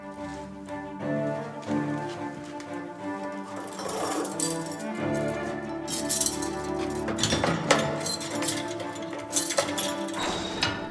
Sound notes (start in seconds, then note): 3.6 dramatic music continues; 3.6 keys clinking